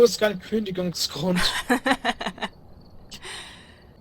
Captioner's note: laughing